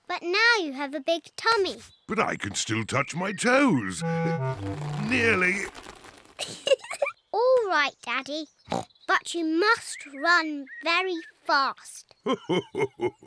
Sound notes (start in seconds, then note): 4.0 straining; 6.4 giggles; 8.9 snorts; 12.2 chuckles